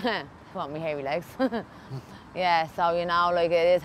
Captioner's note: laughs